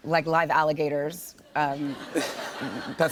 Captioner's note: light laughter